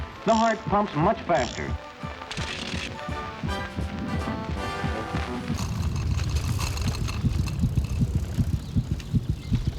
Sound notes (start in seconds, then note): 2.5 heart beating; 5.1 beating continues